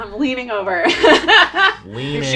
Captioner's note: laughing